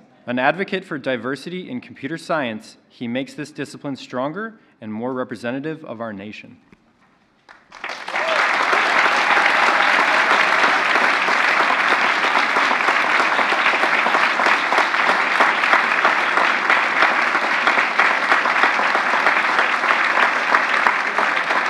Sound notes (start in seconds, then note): 7.4 applause